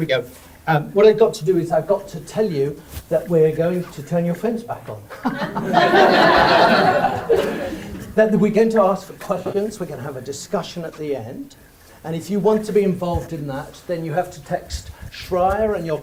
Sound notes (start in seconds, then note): 5.2 audience laughs